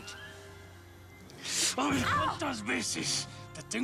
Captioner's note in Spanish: ella grita